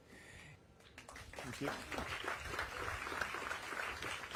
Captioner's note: applause